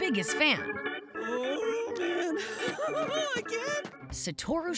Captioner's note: giggling